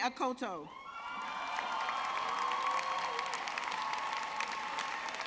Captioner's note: audience clapping